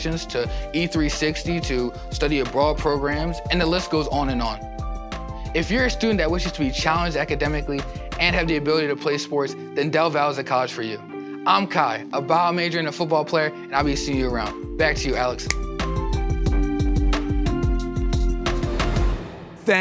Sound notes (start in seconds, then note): 15.4 fingers snapping; 16.6 upbeat music